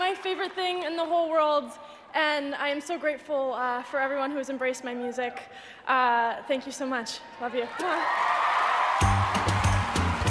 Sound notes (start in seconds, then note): 7.6 cheers and applause